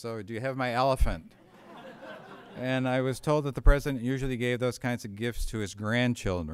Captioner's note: laughter